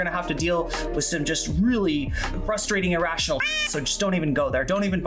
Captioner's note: meow